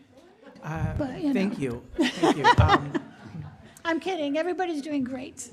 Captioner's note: laughter